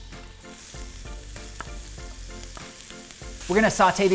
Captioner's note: pan sizzling